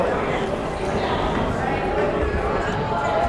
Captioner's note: chattering